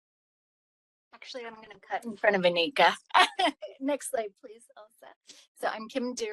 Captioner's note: laughing